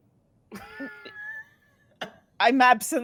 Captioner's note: laughing